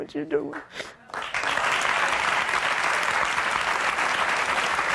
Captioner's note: audience clapping